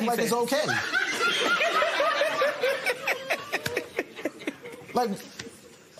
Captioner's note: laughter